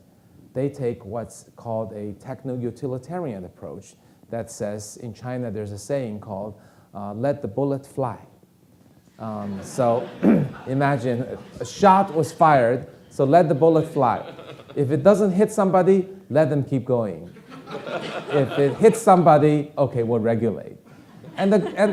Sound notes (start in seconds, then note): 9.2 audience laughing; 17.3 audience laughing